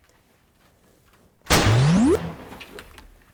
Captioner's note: gunshot